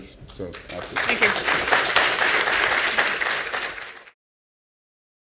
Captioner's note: applause